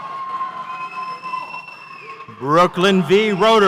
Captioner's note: audience cheers